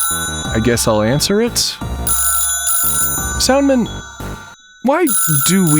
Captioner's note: RInging